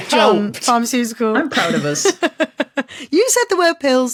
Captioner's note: laughs